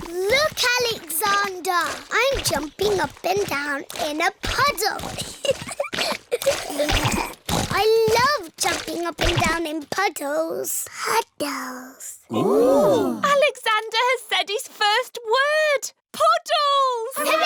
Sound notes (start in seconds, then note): 0.1 snorts; 5.1 giggling